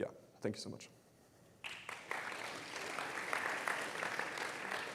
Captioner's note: applause